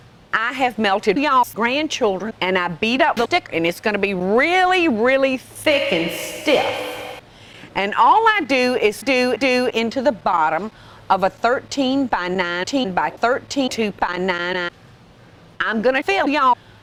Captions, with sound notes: I have melted y'all's grandchildren and I've beat up the dick and it's gonna be really, really [reverb] THICK and STIFF. And all I do is doo-doo into the bottom of a 13x19x32 banana. I'm gonna fill y'all